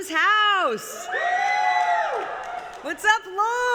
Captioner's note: applause